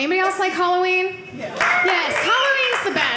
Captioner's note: audience cheering